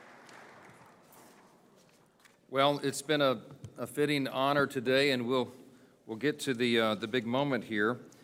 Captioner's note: applause